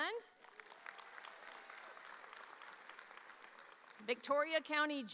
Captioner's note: audience applauding